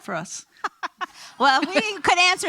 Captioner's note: laughing